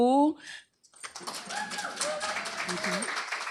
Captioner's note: applause